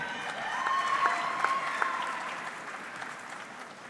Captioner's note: audience clapping